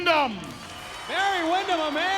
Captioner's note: audience cheers